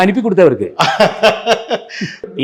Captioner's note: laughs